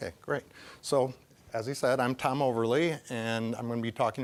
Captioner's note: voice wavering